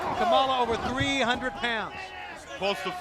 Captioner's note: crowd chatter